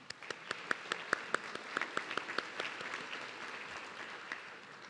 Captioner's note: audience clapping